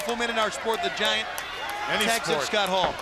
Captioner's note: crowd chatter